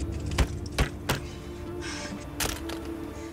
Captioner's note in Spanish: Golpes